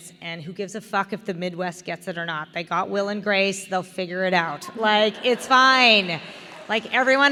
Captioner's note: laughter